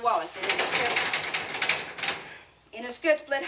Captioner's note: furnace rattling